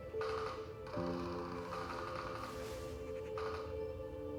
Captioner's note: gunfire on tv